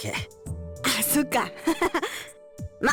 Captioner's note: awkward laugh